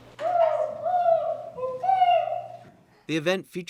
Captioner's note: caller imitating turkey whooping